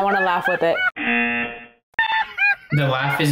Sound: buzzer rings

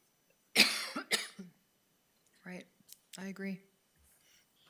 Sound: coughs

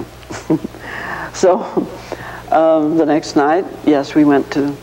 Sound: chuckling

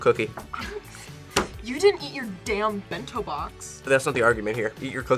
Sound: laughs

